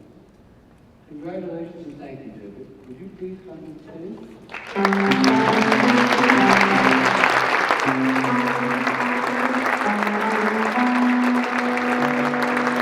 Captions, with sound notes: Congratulations, and thank you David. Would you please come to the stage? (audience clapping) (jazz music)